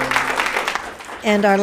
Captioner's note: applauds